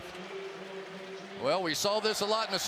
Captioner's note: pa announcement